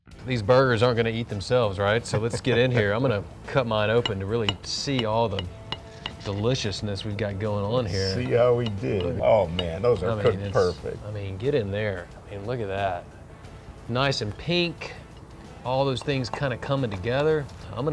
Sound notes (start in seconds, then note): 2.0 laughs